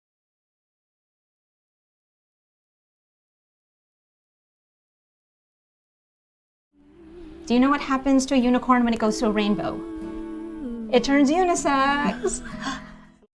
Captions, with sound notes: Do you know what happens to a unicorn when it goes through a rainbow? It turns unisex. [laughs]